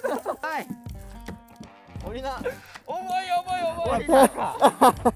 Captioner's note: laughs